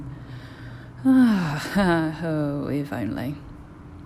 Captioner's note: long, weary exhale